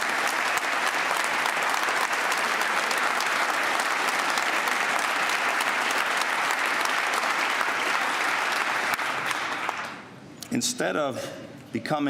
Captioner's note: applause